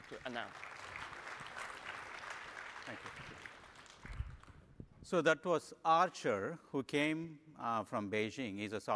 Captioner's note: applause